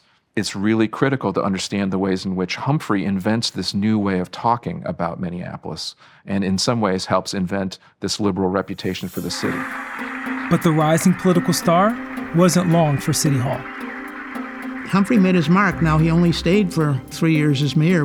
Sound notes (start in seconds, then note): 9.6 group applauding; 9.6 upbeat music; 13.6 group applauding; 13.6 upbeat music